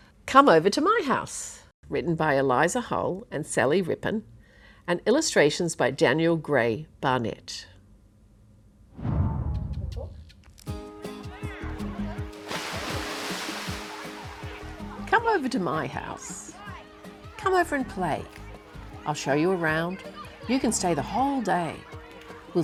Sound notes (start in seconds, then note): 10.9 upbeat music; 10.9 water sloshing